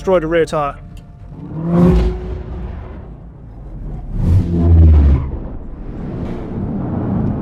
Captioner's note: vehicle revs; transition whooshes